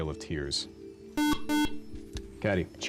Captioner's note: buzzer